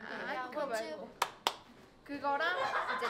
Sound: clap

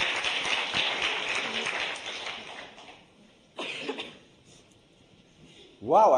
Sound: applause

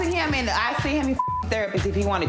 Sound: beep

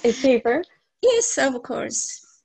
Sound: laughs

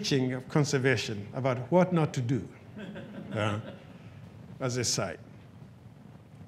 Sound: audience chuckles

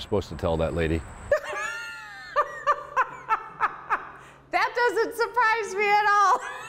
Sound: laughing

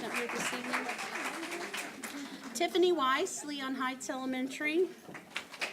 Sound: applause

